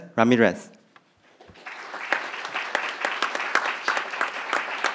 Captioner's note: crowd applauding